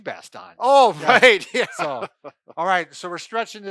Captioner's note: laughing